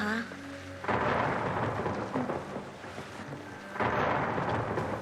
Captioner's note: thunder rumbling